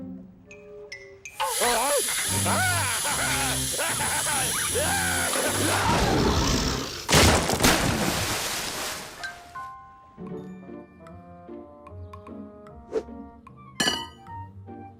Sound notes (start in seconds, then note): 4.6 growling; 7.0 splashing noise